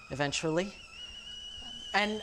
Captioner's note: kettle whistling